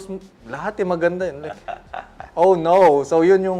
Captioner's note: chuckles